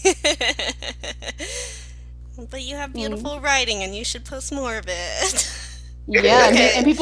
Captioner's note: laughter